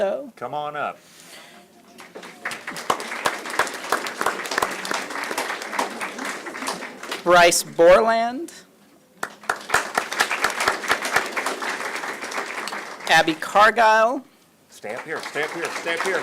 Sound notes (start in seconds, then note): 1.9 applause; 9.2 applause